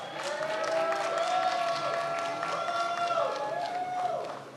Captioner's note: many applauding